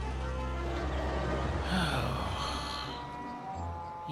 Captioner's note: percy sighs